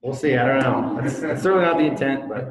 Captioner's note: audience laughs